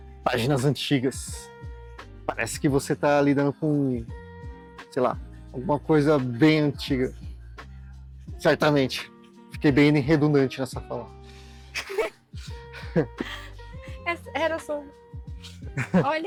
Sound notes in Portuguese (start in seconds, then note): 11.7 risadas